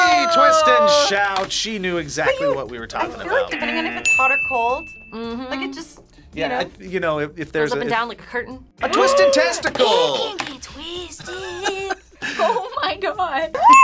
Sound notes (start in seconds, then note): 10.1 gasps; 10.9 laughs